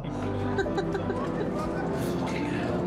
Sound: Sophie laughs

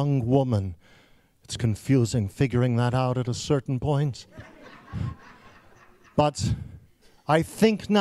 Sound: laughing

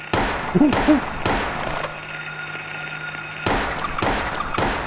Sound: monkey sounds

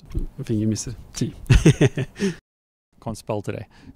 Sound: laughs

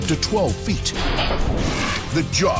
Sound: swift mechanical sawing

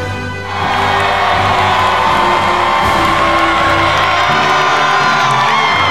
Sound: loud and animated cheering

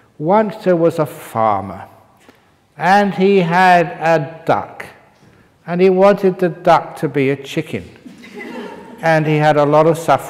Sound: laughter

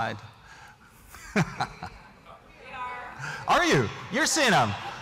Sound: laughter

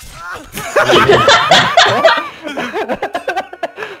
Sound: laughter

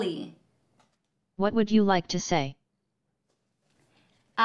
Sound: robot voice

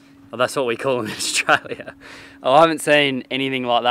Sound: chuckles

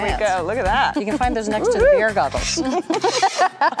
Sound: laughs

